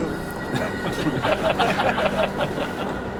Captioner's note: laughing